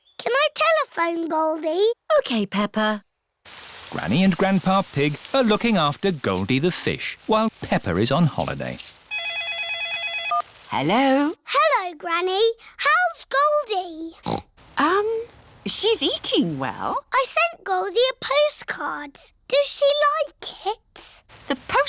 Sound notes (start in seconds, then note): 9.1 phone rings; 14.2 snorts